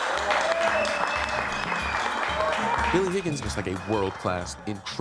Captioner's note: cheers and applause